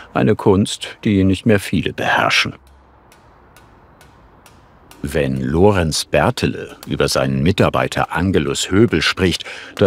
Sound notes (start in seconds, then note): 2.8 distant hammering